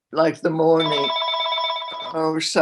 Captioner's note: phone ringing